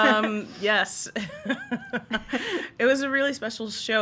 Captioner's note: laughs